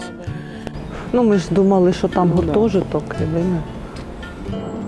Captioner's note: in Ukrainian